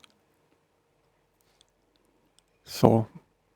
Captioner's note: silence